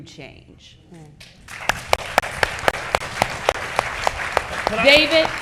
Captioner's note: audience clapping